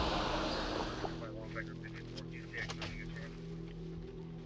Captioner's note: radio noises